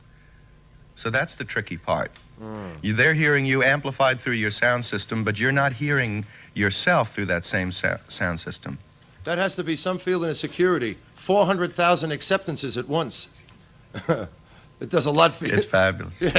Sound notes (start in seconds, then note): 14.0 laughs